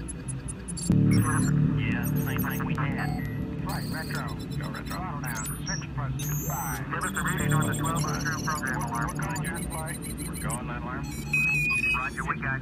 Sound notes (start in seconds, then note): 0.9 mission chatter